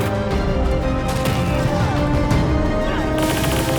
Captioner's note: groaning; guns firing